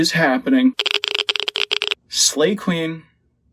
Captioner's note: radiation Crackle